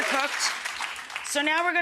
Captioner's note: audience cheering; audience clapping